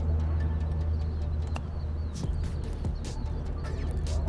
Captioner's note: birds singing; bright music